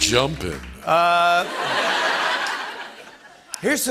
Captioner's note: laughter